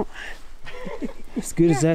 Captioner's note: laughs